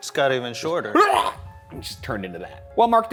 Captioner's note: gasps